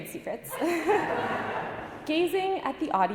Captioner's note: audience laughing